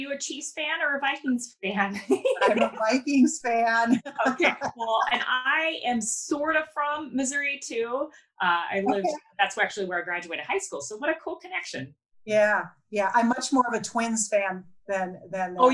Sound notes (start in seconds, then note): 1.9 laughs